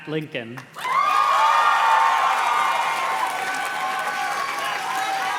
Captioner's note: audience cheers and claps